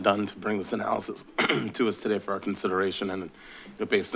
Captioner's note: clears throat